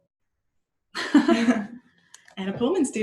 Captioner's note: laughter